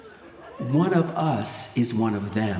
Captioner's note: speaking spanish